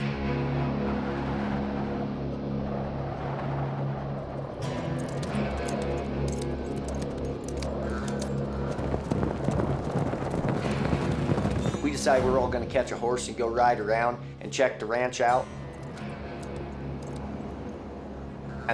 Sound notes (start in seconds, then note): 0.1 wind blowing hard; 4.6 hoofbeats